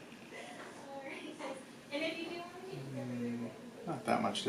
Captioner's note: office woman murmurs